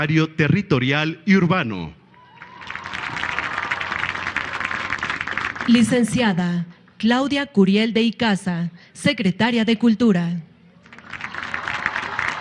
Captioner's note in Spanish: aplausos